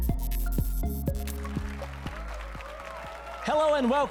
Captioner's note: applause and cheers